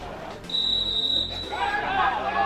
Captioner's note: referees whistle; players shouting